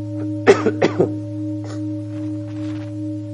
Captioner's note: coughing